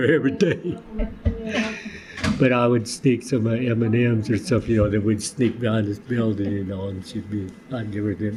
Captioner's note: laughs